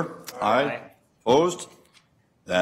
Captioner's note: multiple voices